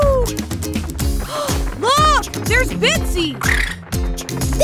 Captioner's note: gasps; crooning sounds